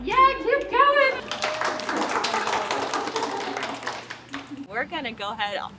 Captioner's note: class applauds